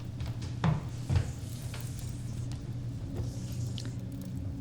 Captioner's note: footsteps thudding